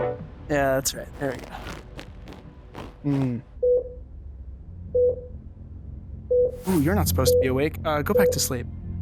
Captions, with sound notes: Yeah, that's right. There we go. [Heart Rate Beeps] Ooh, you're not supposed to be awake. Go back to sleep.